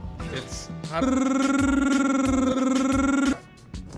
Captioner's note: aggressive alveolar trilling